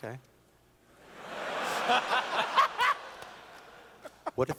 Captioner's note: laughter